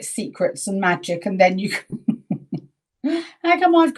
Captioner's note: chuckling